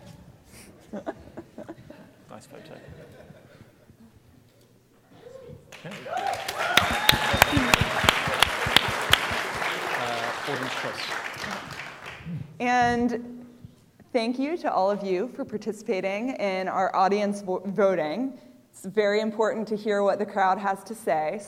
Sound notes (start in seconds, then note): 0.3 laughter; 5.7 applause